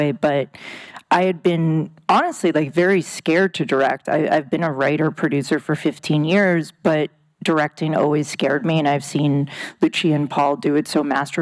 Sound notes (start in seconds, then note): none